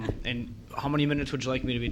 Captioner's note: woman laughing